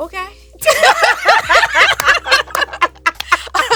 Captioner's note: both laughing